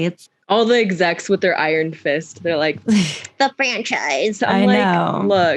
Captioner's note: mocking voice; laughs